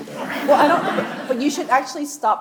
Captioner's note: audience laughs